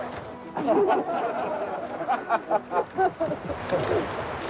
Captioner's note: laughter